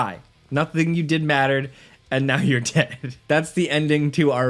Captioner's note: laughs